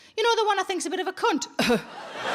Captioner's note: coughing; audience laughing